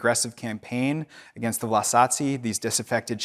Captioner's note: speaking in foreign language